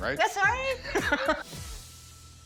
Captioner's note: laughs